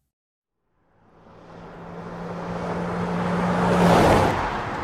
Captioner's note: engine roaring